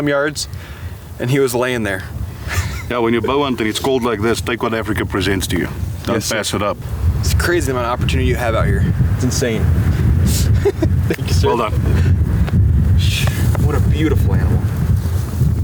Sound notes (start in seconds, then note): 10.2 laughing